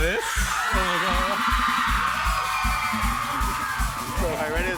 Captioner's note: cheers and applause